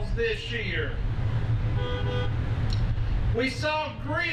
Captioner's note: horns honking